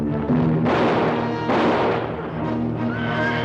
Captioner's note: gun firing